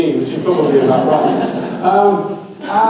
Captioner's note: audience laughs